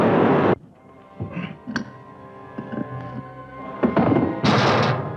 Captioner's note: brooding music; Andre grunts; door crashing